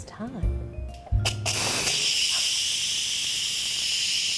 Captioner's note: steam releasing